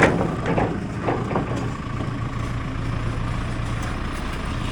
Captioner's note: wood thudding